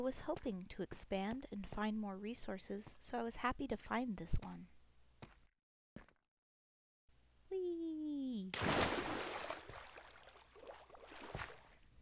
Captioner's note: sploosh!